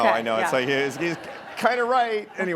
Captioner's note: laughing